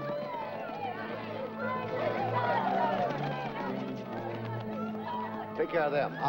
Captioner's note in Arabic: ثرثرة غاضبة; موسيقى مشؤومة